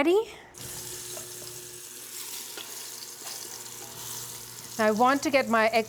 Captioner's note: sizzling